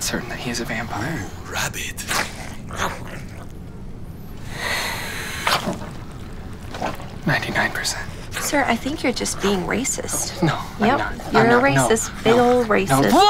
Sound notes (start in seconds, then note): 0.1 growling; 3.0 hissing